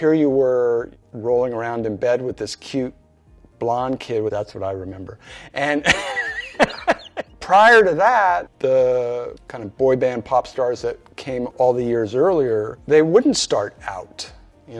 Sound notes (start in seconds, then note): 5.8 laughs